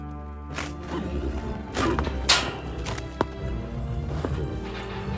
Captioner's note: horse whinnying